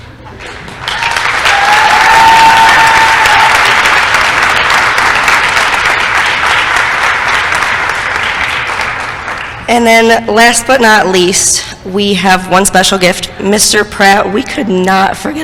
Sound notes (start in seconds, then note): 0.6 applause & cheering